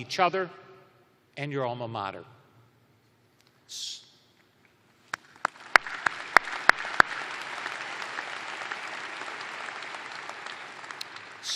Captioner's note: applause